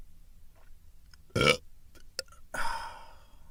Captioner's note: belch